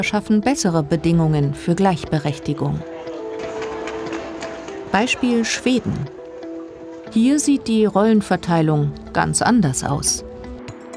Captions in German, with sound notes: schaffen bessere Bedingungen für Gleichberechtigung. (Straßengeräusche) Beispiel Schweden. Hier sieht die Rollenverteilung ganz anders aus.